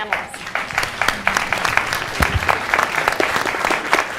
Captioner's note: clapping